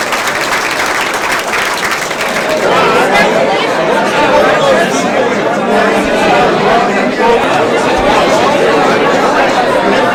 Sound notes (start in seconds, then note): 0.0 applause